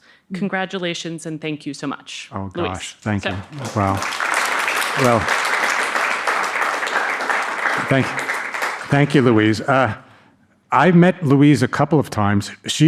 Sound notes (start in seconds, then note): 5.9 audience applauding